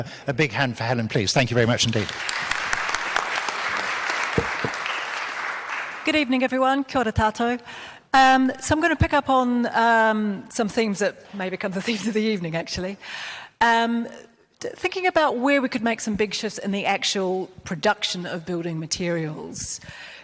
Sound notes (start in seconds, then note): 1.8 crowd applauds